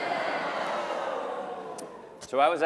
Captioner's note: applause and laughter